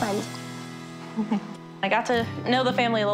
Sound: laughs

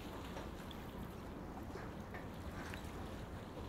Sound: waves

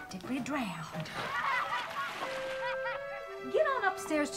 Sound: water splashing; boys laughing

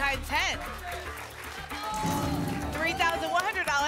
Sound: applause

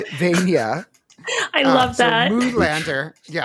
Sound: laughs

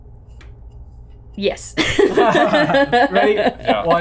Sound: laughs

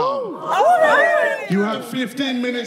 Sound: contestants cheering

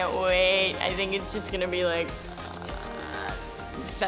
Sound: groans

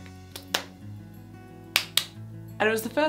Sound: instructor clapping

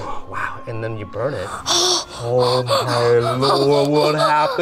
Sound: gasps

